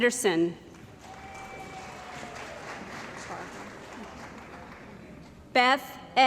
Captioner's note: cheering & Applause